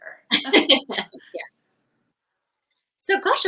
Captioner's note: both laughing